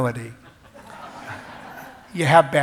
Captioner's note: laughs